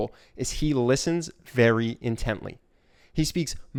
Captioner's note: none